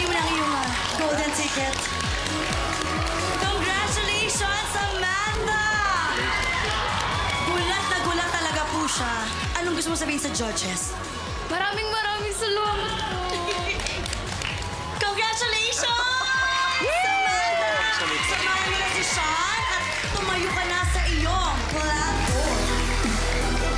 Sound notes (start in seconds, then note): 13.2 clapping